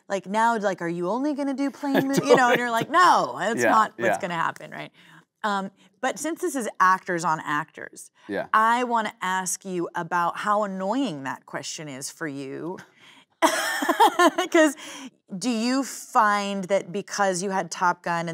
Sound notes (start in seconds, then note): 13.4 both laughing